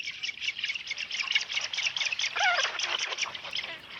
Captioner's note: chicks squawking